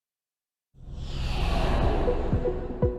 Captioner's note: air whooshing; upbeat music